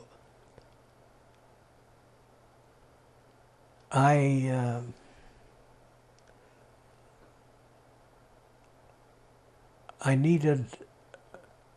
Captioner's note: pauses 10 seconds